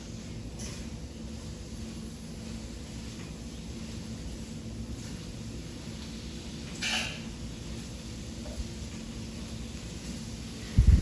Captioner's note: sound of kale sauteing